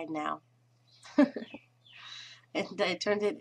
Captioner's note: laughing